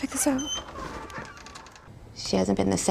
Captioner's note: door opens